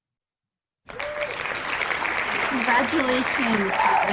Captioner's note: loud applause